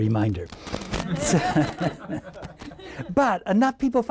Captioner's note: laughing